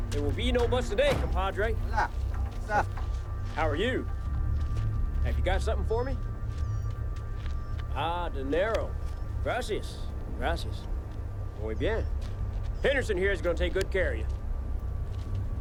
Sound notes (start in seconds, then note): 2.2 drug runner speaks Spanish; 10.0 speaks Spanish